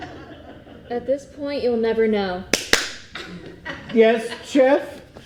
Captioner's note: clap